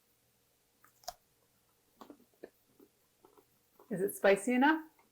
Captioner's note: crunching chocolate